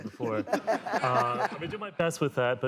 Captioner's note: laughter